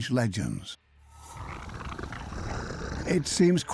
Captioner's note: snarling